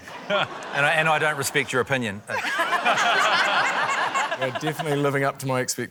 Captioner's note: laughter